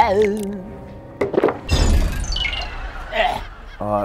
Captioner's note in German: Gelächter, Ekellaut